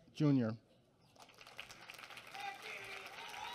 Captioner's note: applause